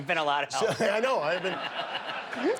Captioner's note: laughter